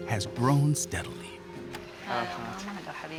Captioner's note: speaking Arabic